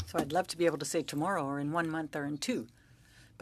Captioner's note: speaking French